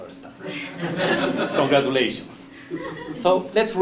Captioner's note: laugh